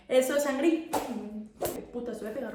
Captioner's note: angry whip sound